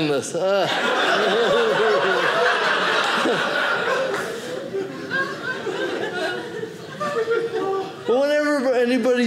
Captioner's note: audience laughing